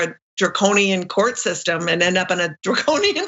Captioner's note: laugh